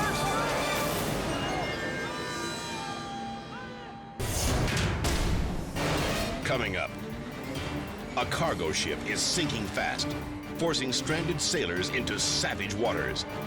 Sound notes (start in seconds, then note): 4.2 graphic booming